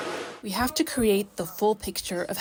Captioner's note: through translator